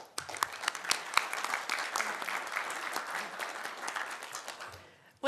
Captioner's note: applause